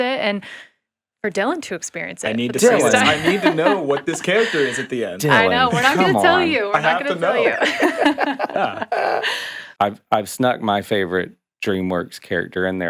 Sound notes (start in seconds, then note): 3.7 laughing; 8.0 podcasters laughing